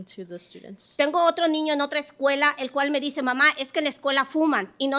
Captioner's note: speaking Spanish